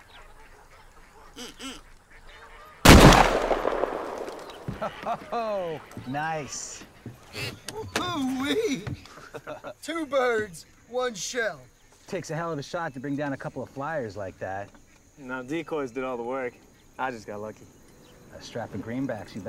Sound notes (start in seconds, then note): 2.8 gun fires